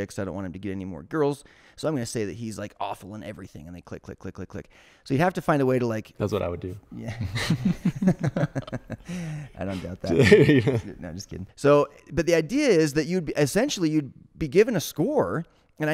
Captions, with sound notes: so I don't want him to get any more girls, so I'm gonna say that he's awful on everything and they click, click, click, click, click. So you have to find a way to like... - That's what I would do. (laughing) - I don't doubt that. No, I'm just kidding. So, but the idea is that you'd essentially be given a score,